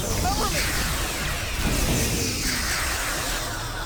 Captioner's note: explosion